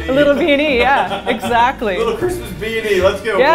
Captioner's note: laughter